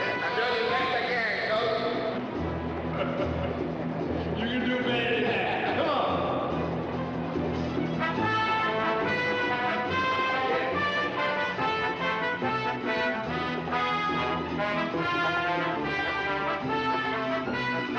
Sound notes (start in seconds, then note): 2.8 Sam laughing